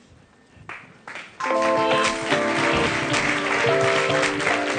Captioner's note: applause